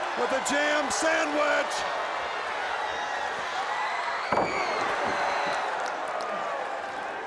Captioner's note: crowd cheering